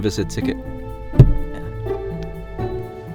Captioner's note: ticket slams on window